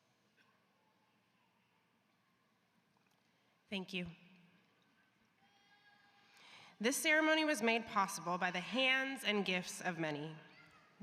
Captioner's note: moment of silence